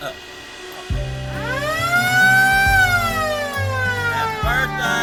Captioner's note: siren